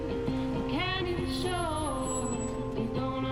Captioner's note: brakes screech